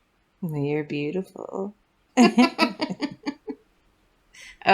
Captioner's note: laugh